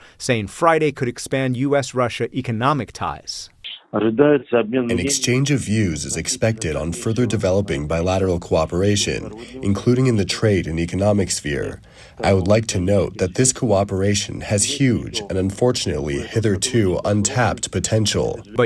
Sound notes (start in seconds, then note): 4.9 through translator